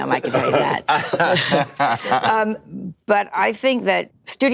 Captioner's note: laughter